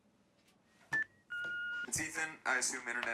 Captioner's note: machine beeping